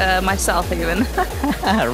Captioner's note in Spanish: risas